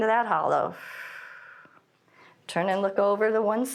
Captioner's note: exhales